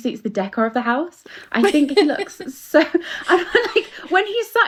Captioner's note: laughter